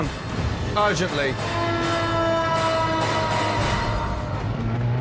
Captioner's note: sirens wail